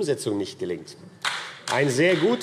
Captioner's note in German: Beifall AfD